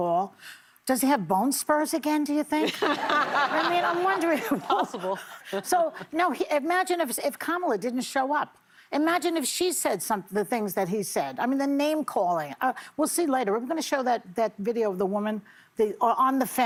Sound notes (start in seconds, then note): 5.7 laughter